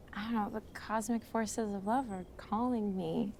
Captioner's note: none